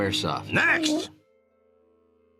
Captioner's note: monster whimpers